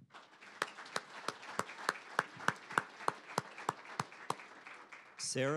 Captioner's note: applause